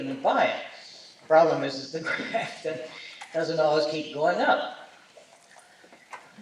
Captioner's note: chuckles